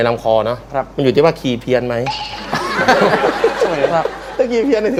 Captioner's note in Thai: เสียงหัวเราะ